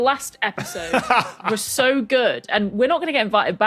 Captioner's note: laughs